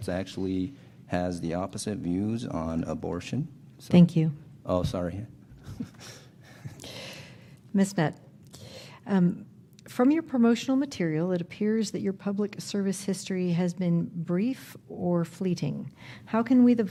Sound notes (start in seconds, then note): 5.5 chuckles